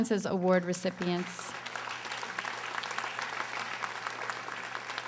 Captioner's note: audience applauding